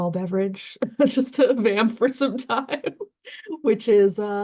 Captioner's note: laughing